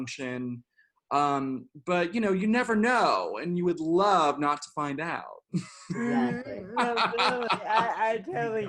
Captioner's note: laughter